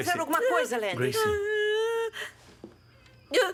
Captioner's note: sobs